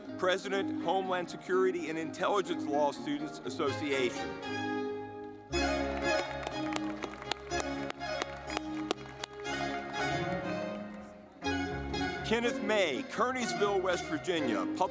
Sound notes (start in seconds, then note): 4.5 lively music; 5.5 audience clapping